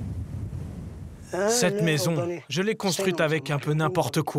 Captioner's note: herero audio spoken